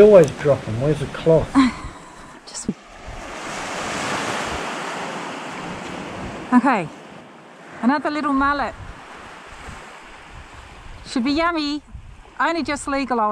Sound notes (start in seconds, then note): 8.9 waves breaking